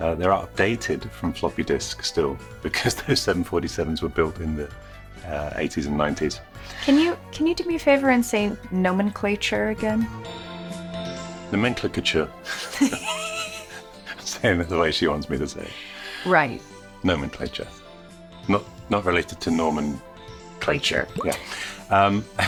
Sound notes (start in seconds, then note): 10.1 light music; 12.4 both laughing